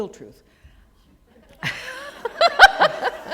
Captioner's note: laughter